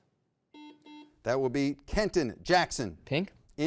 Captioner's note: buzzer beeps